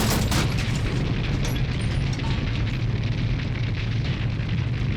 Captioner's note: fire crackles